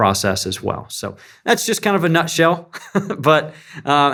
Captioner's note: laugh